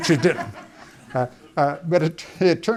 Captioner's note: audience laughing